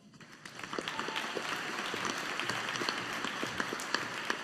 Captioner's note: audience applauding